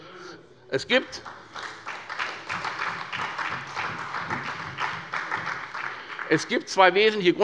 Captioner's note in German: Beifall bei Abgeordneten der SPD